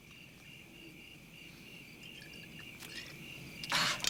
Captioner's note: quiet crickets sound